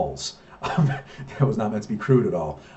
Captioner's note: laughs